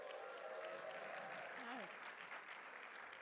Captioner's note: applause and cheering